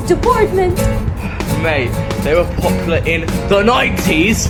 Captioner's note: sigh